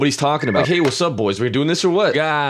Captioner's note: phone ring